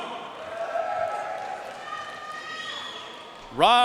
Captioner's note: audience cheering and applauding